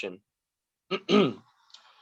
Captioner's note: medium throat clear